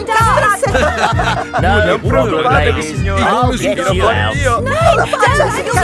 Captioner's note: chuckles